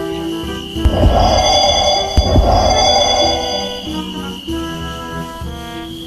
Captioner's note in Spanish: Sonido de teletransportacion